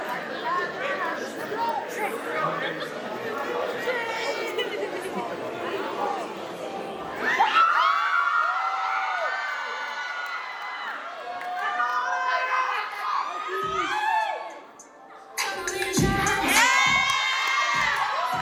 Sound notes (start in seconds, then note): 13.6 applause